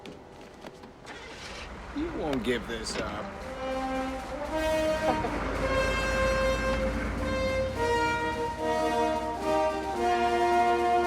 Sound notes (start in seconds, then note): 1.0 ignition Starts; 5.1 Victoria Laughs